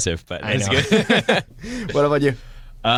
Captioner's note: laughter